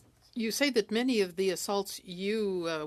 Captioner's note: speaking French